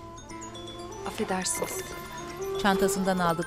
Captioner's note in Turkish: Telefon zili sesi